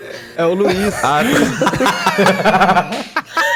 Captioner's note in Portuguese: risadas